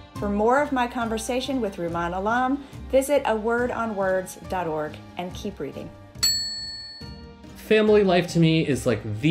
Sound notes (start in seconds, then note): 6.2 bell ringing